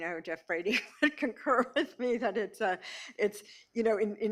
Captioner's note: laughs